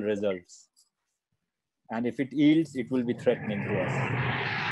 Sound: monster voice

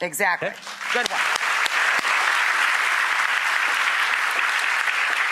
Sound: audience applauds

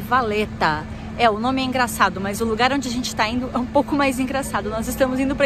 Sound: in Portuguese

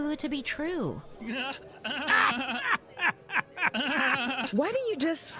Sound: laughing

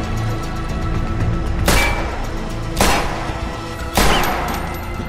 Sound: gunshots

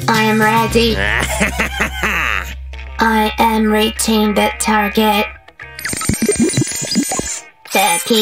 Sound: evil laughter

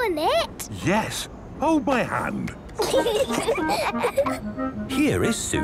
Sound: children giggling

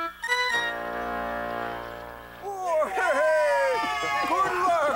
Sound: all cheer

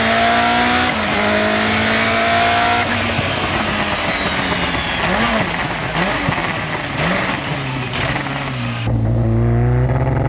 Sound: engine reving; engine reving, gear shifting

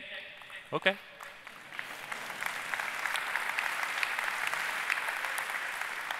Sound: applause

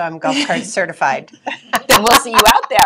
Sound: laughing

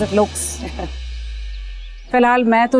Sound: giggle

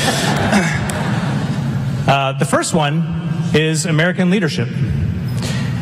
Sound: laughter

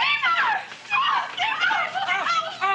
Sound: chattering; squeals

